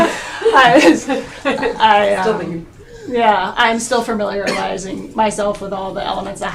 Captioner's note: laughing